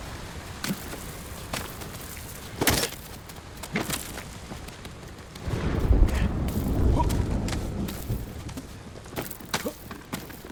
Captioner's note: thunder rumbling